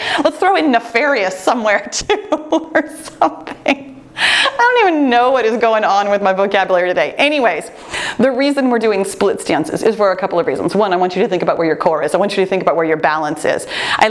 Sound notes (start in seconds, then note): none